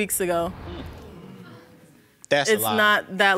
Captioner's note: audience exclaims